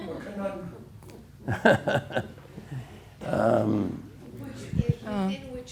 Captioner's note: laughs